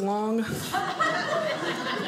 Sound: audience laughing

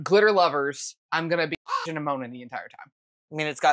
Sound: caw

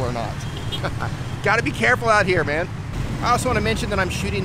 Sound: laughs

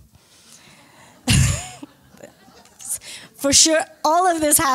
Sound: laughter

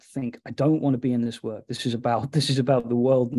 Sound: chuckling

